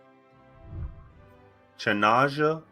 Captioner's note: whooshing